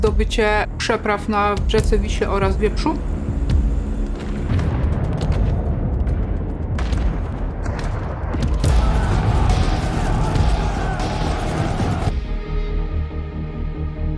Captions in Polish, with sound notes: oraz zdobycie przepraw na rzece Wiśle oraz Wieprzu. [odgłosy walki]